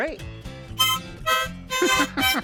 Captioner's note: harmonica playing; laughs